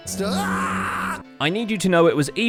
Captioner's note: yells